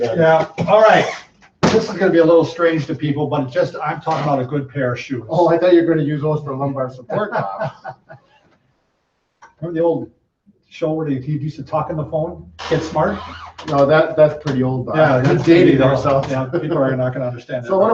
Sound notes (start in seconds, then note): 6.8 laughs